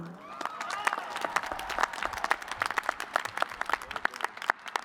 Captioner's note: cheers and applause